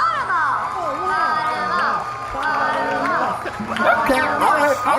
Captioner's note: chanting